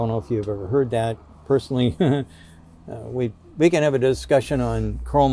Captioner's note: giggles